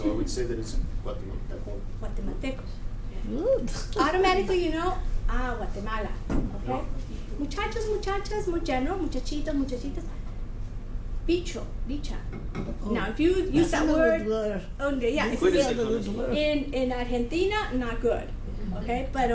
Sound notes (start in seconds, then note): 7.6 foreign language; 15.0 foreign Language